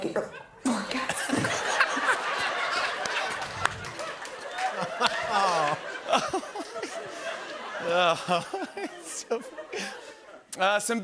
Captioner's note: laughter